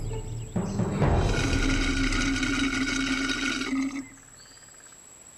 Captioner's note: slurping